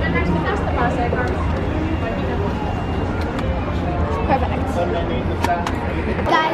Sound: camera whirring

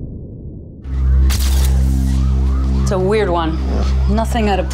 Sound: dramatic music; cameras clicking

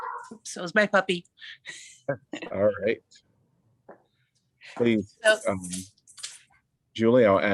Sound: laughter

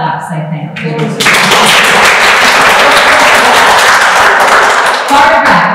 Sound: applause

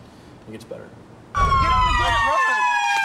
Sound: police sirens

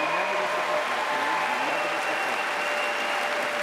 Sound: applause

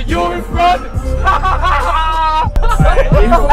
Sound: laughing

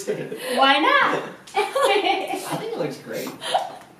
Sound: laugh

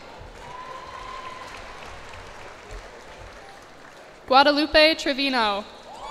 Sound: cheers and applause

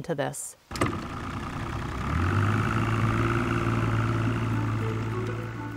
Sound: boat motor purrs

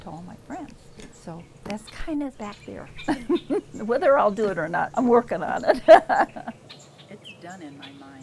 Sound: laughs

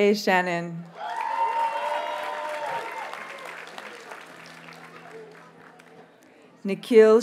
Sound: audience cheers and applauds

